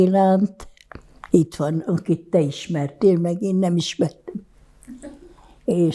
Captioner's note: laughing